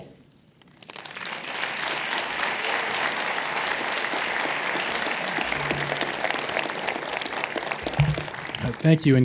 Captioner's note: applause